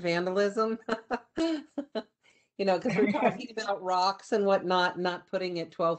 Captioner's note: laughter